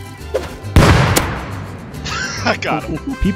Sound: grenade Explosion; laughing

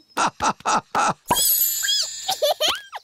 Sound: laughing; squeaking; giggling

